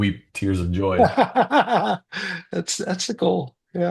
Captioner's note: laughs